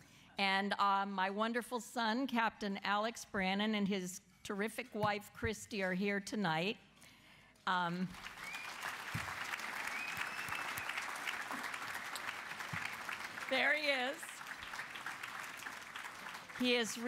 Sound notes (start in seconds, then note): 8.0 applause